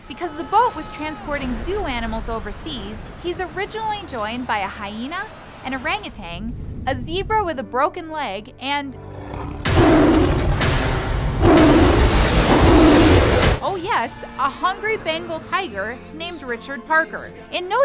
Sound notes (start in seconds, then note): 11.3 tiger roaring